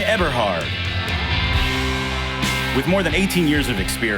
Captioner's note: audience cheering